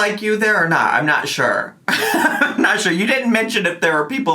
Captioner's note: laughing